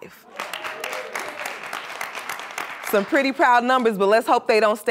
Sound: applause

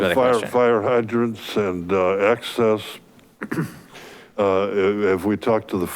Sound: coughs

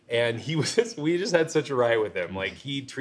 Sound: laughs

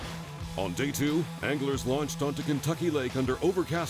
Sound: voiceover

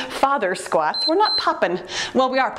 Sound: timer beeps

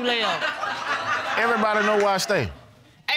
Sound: all laughing

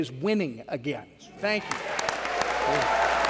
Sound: applause

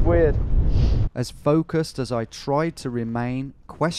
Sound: voiceover

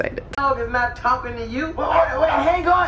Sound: the TV playing Good Burger

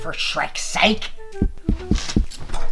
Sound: knocking

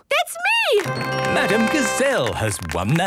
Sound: applause

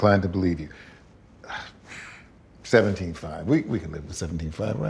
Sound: sighs

